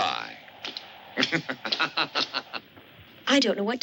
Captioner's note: laughs